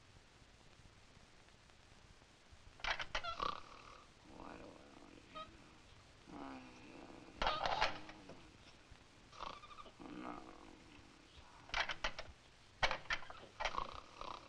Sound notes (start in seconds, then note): 2.7 lock clicking; 3.2 Sammy snores; 11.7 lock clicking